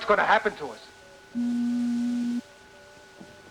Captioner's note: door beeps